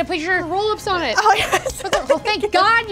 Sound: laughs

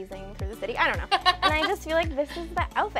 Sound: laughs

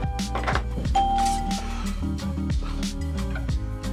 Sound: bell rings

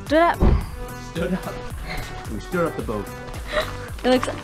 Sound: laughs

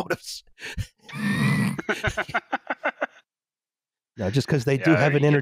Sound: laughter

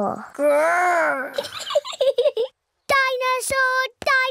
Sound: giggles

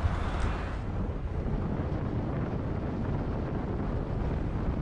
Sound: wind gushing

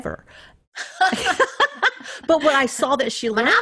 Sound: laughing

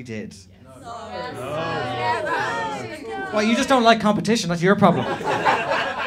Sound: groans

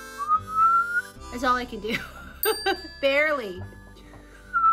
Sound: whistles; bell chimes; Margaret whistles

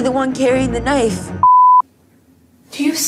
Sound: beep

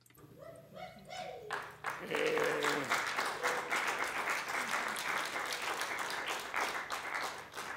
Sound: cheers, applause

